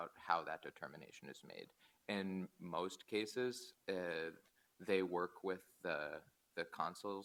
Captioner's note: none